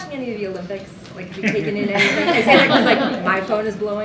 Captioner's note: laughter